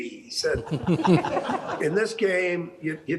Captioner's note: all laughing; laughing